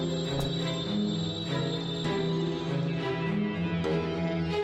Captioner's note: bundles thudding